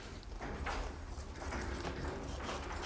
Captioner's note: low clatter